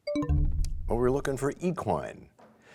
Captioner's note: bell chimes, time expires